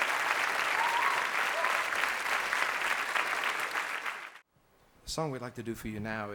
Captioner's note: audience cheering